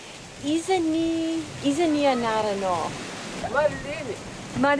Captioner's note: Malagasy spoken audio